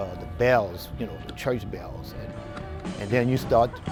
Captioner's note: bells ringing